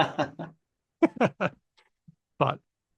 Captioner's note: laughter